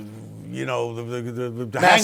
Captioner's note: laughs